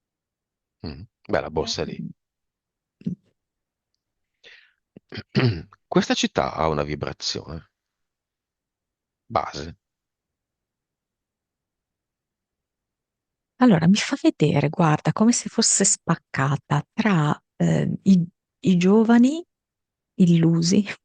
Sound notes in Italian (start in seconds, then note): 1.9 schiarire la voce